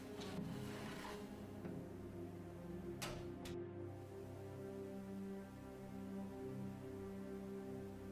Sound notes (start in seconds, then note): 3.0 door clicks closed